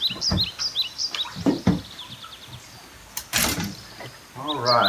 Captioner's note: boat clunks; fishing rods clatter